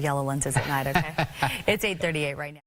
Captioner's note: laughing